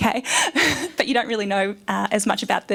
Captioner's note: laughs